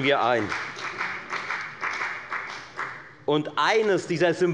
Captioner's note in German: Beifall bei der FDP